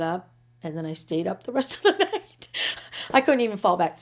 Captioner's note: laughing